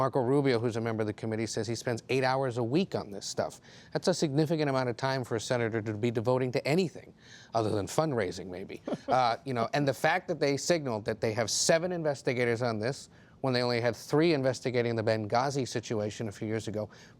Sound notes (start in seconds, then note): 8.8 laughter